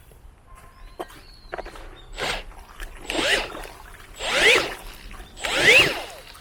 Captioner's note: battery operating mixer